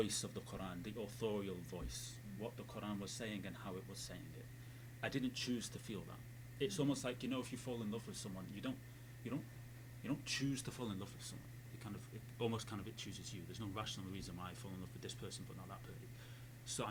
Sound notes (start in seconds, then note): none